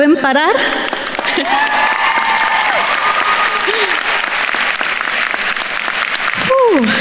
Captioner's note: attendees cheering and applauding